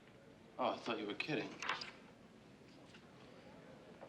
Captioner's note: none